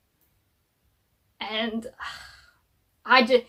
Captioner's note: sighs